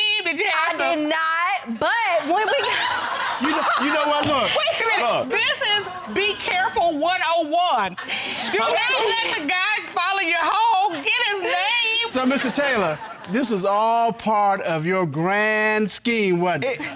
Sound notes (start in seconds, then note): 1.6 woman cackling